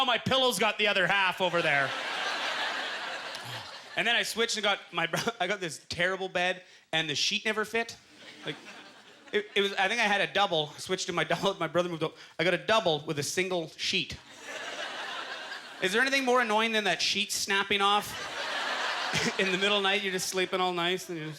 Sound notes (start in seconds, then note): 1.5 audience chuckling; 14.2 audience laughter